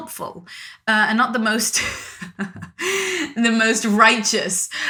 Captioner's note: laughs